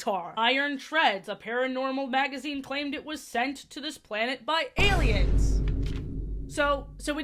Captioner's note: boom sfx